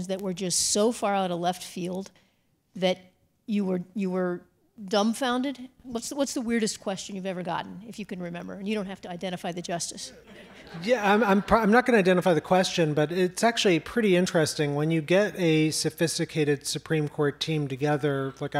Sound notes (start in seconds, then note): 10.2 audience laughs